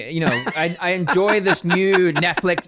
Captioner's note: laughs